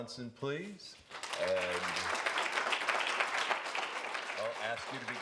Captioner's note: applause